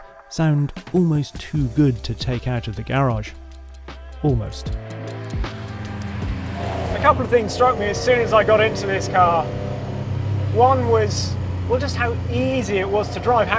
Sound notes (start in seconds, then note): 5.1 car engine roaring